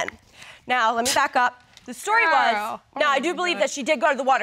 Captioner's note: scoffs